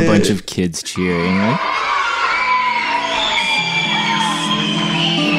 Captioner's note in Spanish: niños celebrando